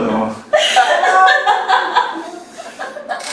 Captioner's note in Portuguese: risos